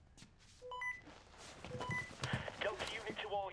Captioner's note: walkie talkie